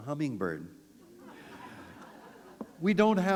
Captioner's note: laughter